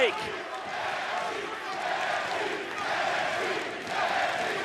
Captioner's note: audience cheering